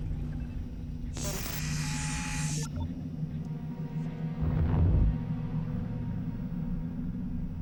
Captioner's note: static hisses